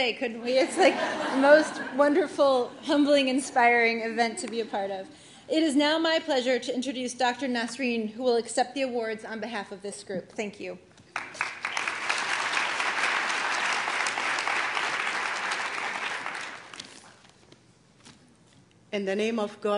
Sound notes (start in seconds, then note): 0.5 laughter; 11.1 applause